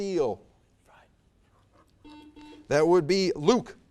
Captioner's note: buzzer buzzes